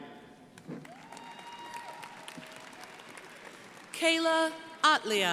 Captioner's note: crowd applauding